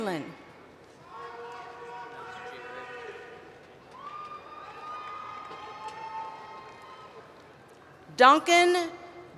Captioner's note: cheering